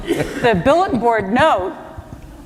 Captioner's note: laughter